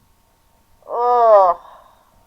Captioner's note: groans